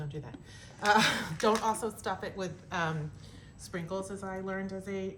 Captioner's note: laughter